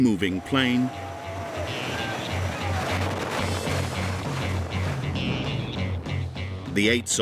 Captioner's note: soldiers cheering; air whooshing